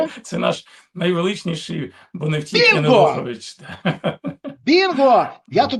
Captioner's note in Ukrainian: сміх